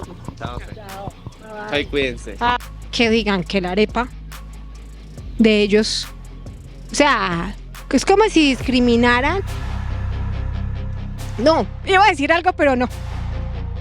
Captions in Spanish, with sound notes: Adiós. Adiós, cuídense. Él dijo que la arepa de ellos... [Enojada] Es como si discriminaran... [Música tensa] No. Iba a decir algo, pero.... no.